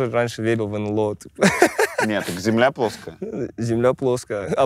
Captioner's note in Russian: смеется